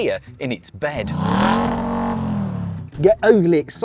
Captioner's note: engine revs